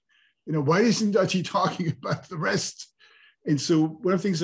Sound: chuckles

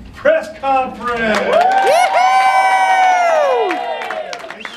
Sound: cheering

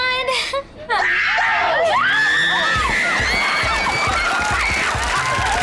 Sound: screaming

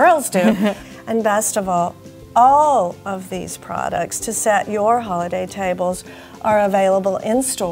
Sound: laugh

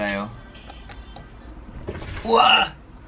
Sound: thud

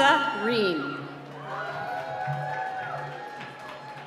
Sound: cheering

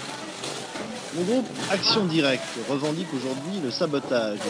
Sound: man speaking French

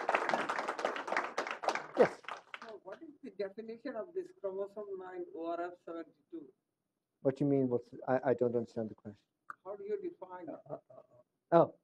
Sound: applause

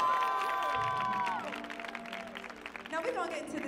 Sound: audience cheering

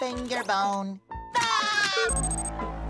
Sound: laughing

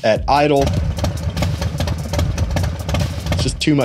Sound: engine revving

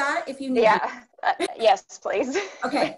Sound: laughs

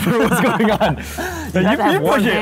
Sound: laughter

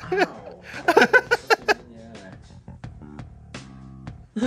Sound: laughing

